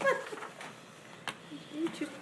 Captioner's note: woman laughs